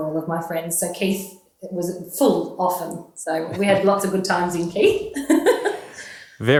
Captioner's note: laughing